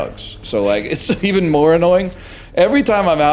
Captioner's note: chuckles